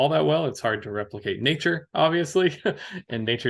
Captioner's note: laughs